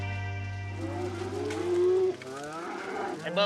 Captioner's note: mooing